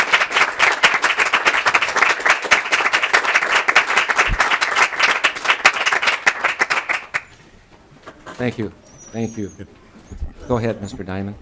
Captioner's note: applause